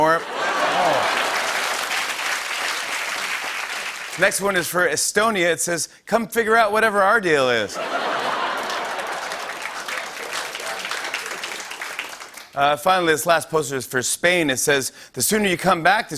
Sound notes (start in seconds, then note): 0.1 laughter; 7.7 laughter and applause